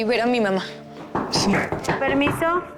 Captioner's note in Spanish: Toques en la puerta